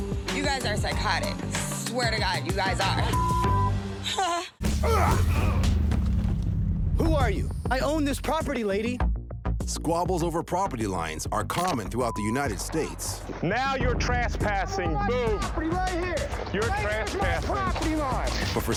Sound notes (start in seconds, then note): 3.1 recorder gasps